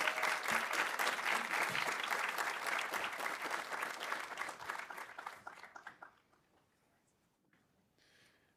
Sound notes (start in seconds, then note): 0.0 audience applauding